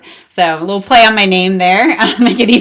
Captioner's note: chuckles